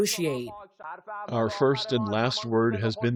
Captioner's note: through translator